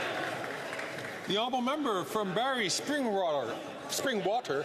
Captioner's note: some Applause